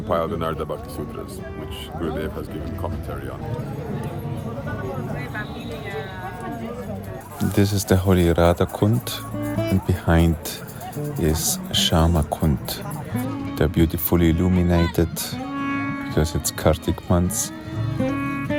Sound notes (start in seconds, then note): 3.7 people chattering